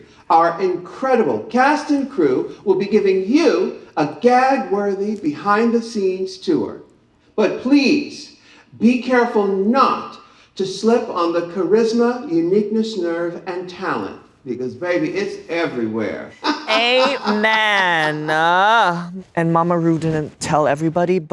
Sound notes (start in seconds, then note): 16.4 laughs